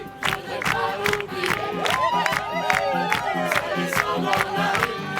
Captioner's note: cheering